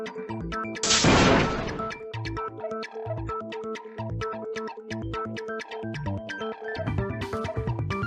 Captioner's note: first blow